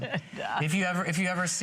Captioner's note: laughter